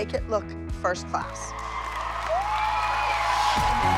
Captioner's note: cheering wildly